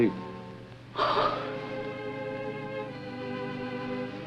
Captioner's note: sobs